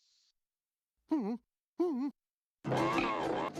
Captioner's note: whimpers